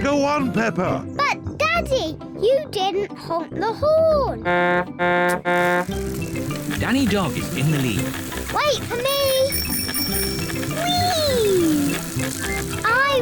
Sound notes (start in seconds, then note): 4.4 honks horn; 8.8 rings bell